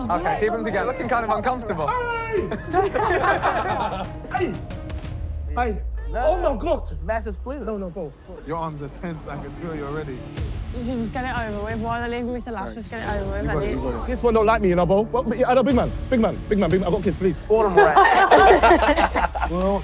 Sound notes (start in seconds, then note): 2.1 laughing; 2.2 shouting; 17.6 contestants laughing